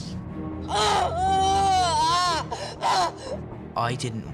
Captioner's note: harry yelling